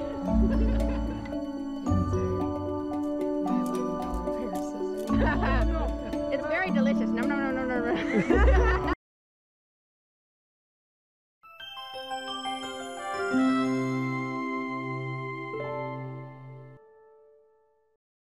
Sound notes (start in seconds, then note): 7.9 laughs; 14.0 theme music